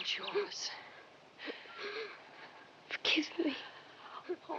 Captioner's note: sobbing